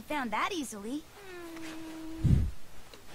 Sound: worried groaning

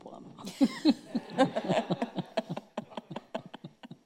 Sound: laughing

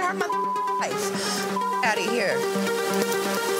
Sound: beep; techno music

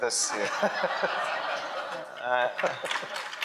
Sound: laughing; audience clapping

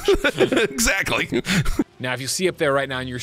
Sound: laughs

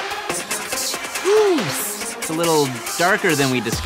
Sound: electronic dance music; sighs

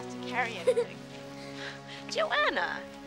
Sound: laughing

